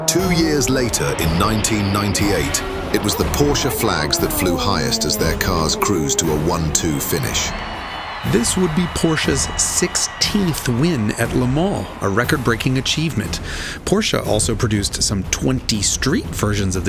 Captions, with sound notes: Two years later, in 1998, it was the Porsche flags that flew highest as their cars cruise to a 1-2 finish. (crowd cheering) - This would be Porsche's 16th win at Le Mans, a record-breaking achievement. Porsche also produced some 20 street versions